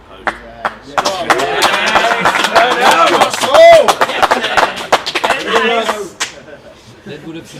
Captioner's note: applause